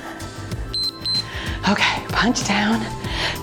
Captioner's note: timer beeps